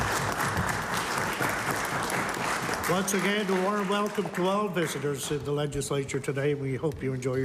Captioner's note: applause